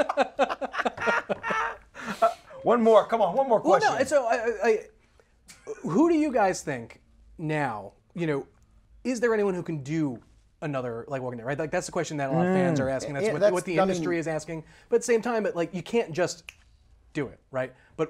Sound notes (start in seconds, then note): 0.0 laughs; 17.2 snaps